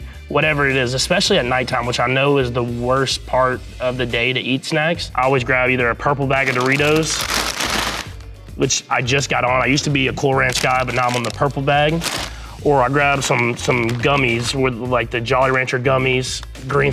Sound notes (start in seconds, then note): 6.4 bag crinkling